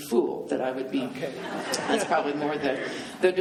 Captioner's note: laughing